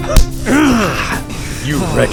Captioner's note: Prospector growls